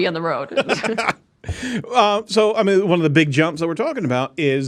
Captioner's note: laughs